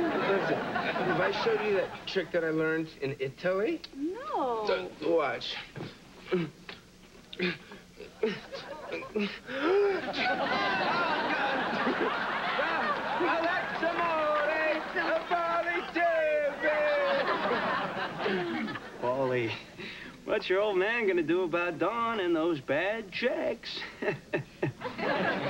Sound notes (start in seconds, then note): 14.8 speaking italian